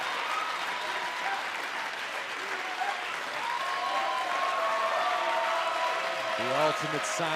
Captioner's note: cheers and applause